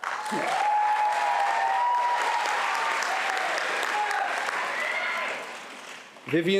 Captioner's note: applause